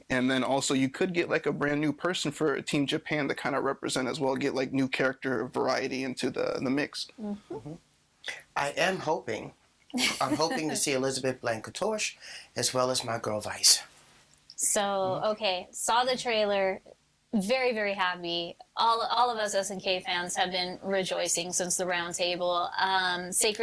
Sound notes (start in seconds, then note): 10.0 laughing